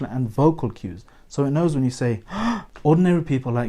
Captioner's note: gasp!